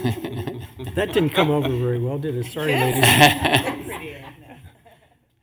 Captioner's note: laughter